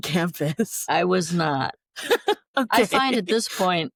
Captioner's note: laughter